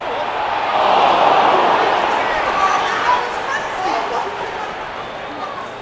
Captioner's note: football sounds